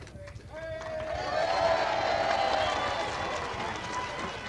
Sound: crowd cheering and applauding

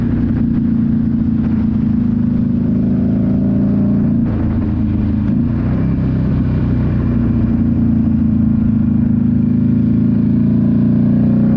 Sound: engine roaring

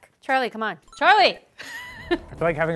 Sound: laughs

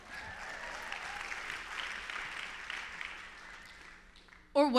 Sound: applause

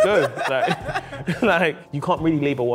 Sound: both laughing

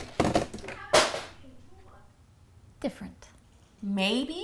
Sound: crash

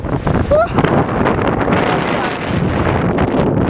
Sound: rustling of Wind

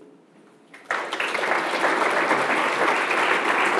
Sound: applause

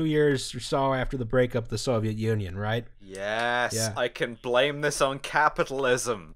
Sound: exaltantly

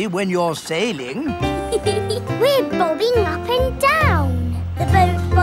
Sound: giggles

